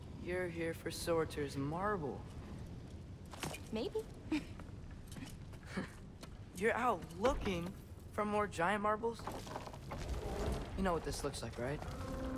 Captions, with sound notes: You’re here for Surtr’s marble! Maybe! (laugh) You’re out LOOKING for more Giant marbles? You know what this looks like, right?